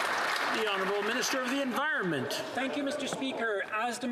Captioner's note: some Applause